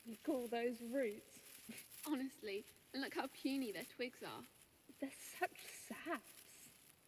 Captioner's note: leaves rustle